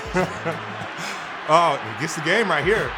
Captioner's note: fans cheering